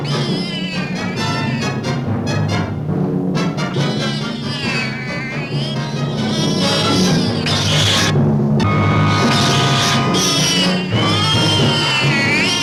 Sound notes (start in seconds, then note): 0.0 cat yowling; 3.6 cat yowling